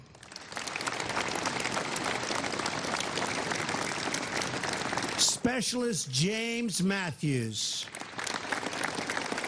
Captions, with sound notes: [ APPLAUSE ] STAFF SERGEANT FREDERICK MANNING.